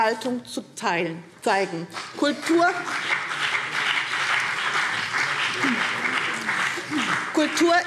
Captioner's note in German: Beifall BÜNDNIS 90/DIE GRÜNEN und vereinzelt CDU